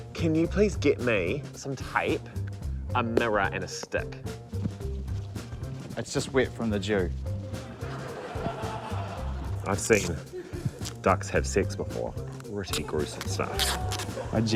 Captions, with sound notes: - Can you please get me some tape, a mirror and a stick? - It's just wet from the dew. (LAUGHTER) - I've seen ducks have sex before. Pretty gruesome stuff.